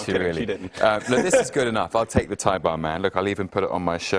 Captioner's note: laughter